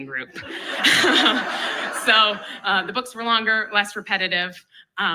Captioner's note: laughs